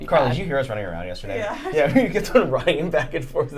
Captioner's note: laughing